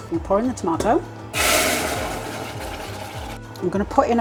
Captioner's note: bubbling sizzle